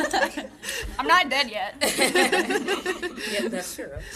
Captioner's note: audience laughing